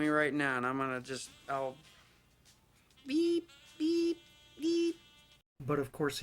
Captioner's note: makes a beep beep beep sound, suggesting he would back off